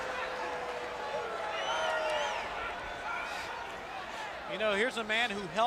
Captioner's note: crowd chatter